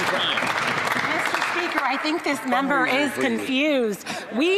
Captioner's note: some Applause